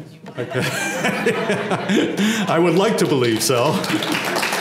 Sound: laugh; applause

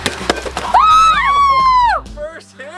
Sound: girls screaming

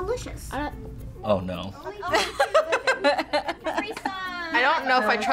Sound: laughs

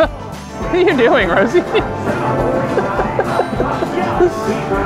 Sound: laughs

